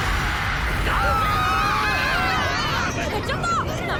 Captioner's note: all screaming